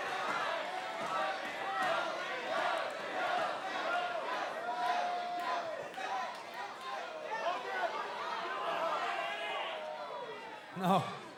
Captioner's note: applause; fans chanting